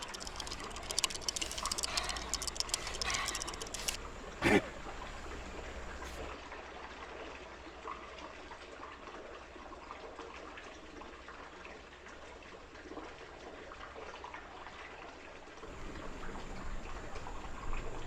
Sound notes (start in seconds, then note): 0.0 Dogmouth panting over rattling dice; 4.4 Dogmouth grunts; 6.3 water babbling